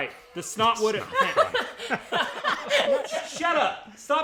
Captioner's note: laughing